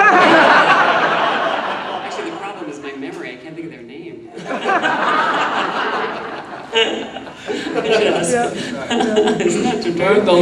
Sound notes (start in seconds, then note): 0.0 audience laughing; 7.3 laughs